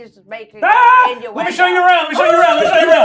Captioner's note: yells